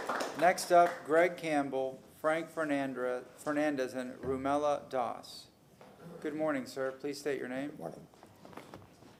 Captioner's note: applause